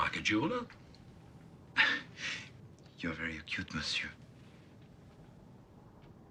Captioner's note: Terkekeh